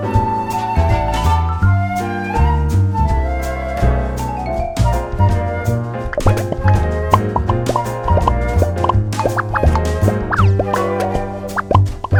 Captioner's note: popping sounds as the pins stick